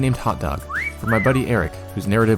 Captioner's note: whistle